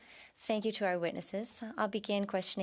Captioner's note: speaking French